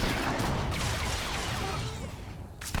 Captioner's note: gun firing